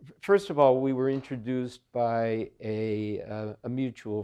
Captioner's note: none